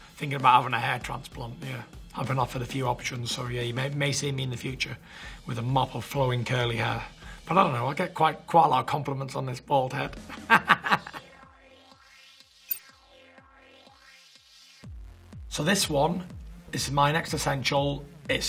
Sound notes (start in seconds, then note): 10.2 laughter; 11.9 electronic music